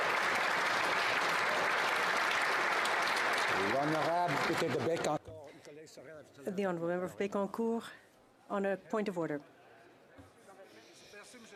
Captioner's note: applause